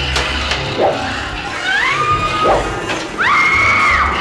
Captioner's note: swooshing; girl screaming; smashing